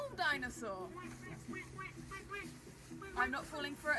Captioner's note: offscreen quacking